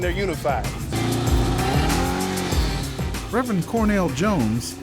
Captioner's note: engine revving